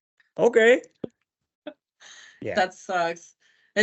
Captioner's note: chuckles